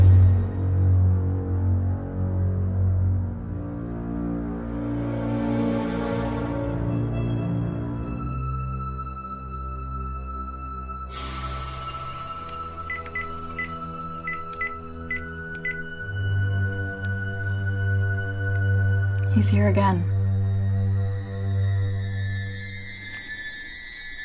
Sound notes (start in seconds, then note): 0.3 eerie dramatic music continues; 10.1 eerie dramatic music continues; 12.8 buttons beeping; 20.7 eerie dramatic music